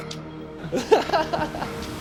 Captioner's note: laughs